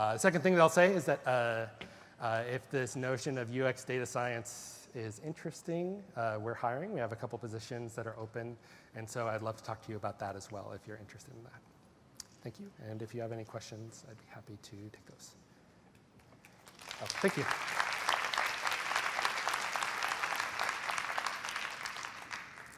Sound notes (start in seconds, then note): 16.2 applause